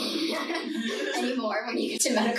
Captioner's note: laughing softly